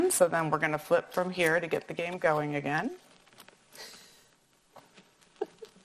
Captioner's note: laughs